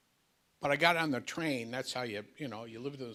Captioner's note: none